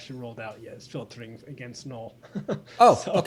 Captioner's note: laughs